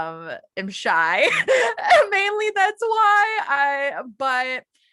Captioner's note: laughs